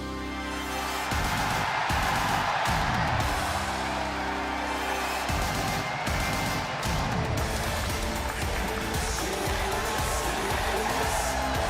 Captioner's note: crowd cheering